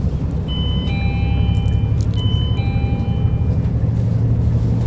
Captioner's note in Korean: 하차벨 소리